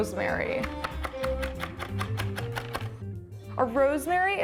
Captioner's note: chopping